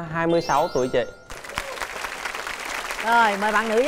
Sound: applause

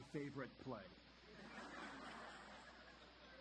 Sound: audience laughter

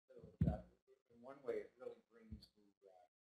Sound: voiceover

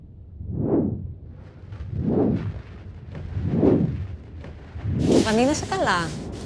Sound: electronic warbling intensifies; flight attendant and Vanina speaking foreign language

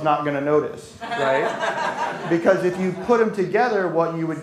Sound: laughter

